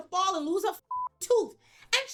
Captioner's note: beep